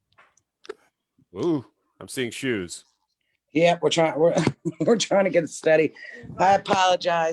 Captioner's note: laughs